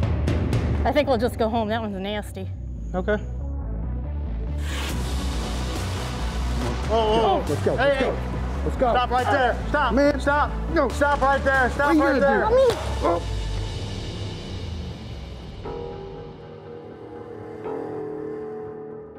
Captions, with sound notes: I think we'll just home now, that one's nasty. - Okay. - Lets go, lets go. - Whoa, whoa, hey! Stop right there! Stop right there! (gunshot) - Oh! (intense music)